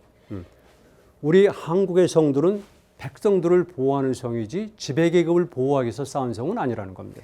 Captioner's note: speaking in Korean